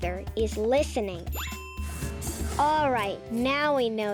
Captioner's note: check mark rings; bright music